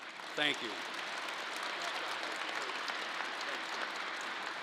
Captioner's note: crowd applause